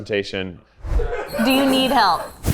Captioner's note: laughing